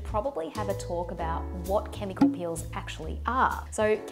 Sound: popping

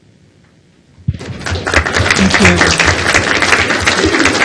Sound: applause

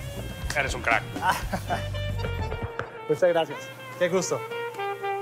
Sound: laughs

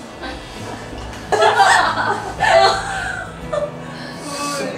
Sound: sniffle

